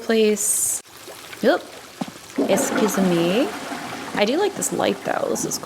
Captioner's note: toilet flushing